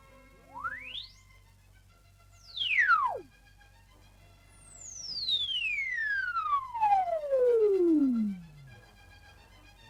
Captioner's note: audio tones